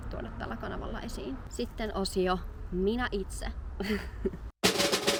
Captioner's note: laughter